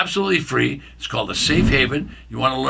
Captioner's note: screen swipe